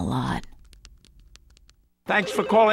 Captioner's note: phones ringing